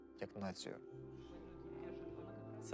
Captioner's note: team chattering